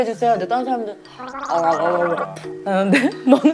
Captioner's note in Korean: 가글 가글